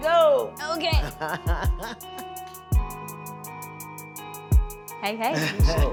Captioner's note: chuckles